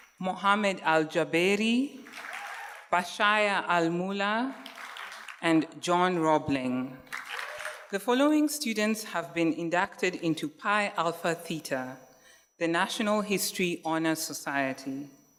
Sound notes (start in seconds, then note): 7.1 audience cheers and applauds